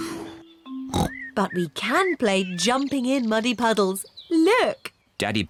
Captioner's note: oinks